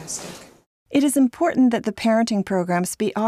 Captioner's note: voiceover